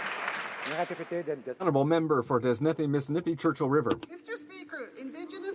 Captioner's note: some Applause